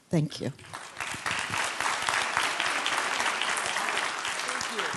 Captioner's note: applause